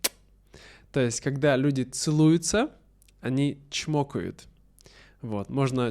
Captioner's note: чмокают